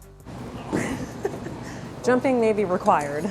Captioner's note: laughing